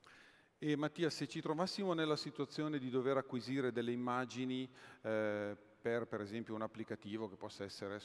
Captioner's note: speaking italian